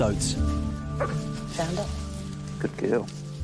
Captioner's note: Rain barks